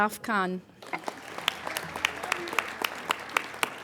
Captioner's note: applauding